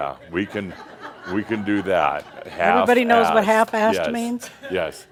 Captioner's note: laughter